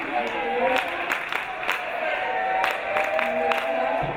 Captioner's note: teammates clapping